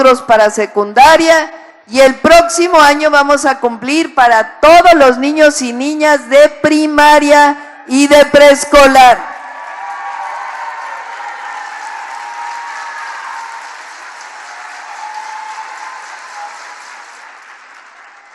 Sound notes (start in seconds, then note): 11.1 applause